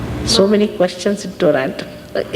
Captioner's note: laughing